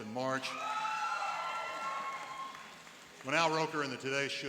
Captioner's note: cheering and applauding